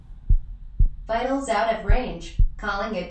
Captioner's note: heart beating slowly